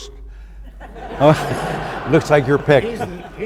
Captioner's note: audience laughs